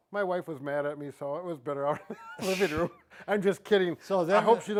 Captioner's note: chuckles